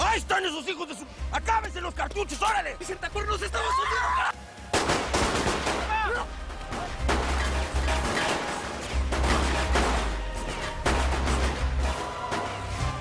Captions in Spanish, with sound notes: - !AHI ESTAN ESOS HIJOS DE SU...! !ACABENSE LOS CARTUCHOS, ORALE! [Gritos] [Disparos]